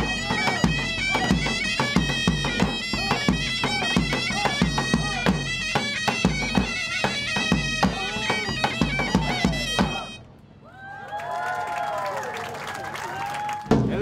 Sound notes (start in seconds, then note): 10.6 cheers